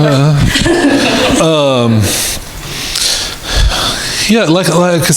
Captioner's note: laughing